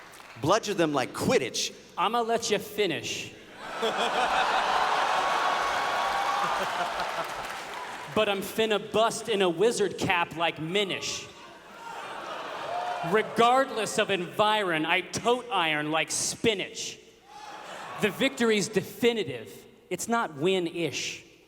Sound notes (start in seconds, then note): 3.6 laughter